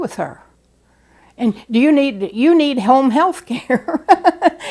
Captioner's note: chuckle